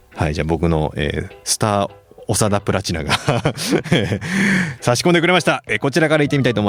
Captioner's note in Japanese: 笑い